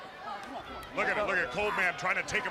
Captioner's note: crowd chatter